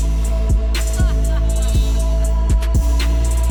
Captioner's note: evil cackle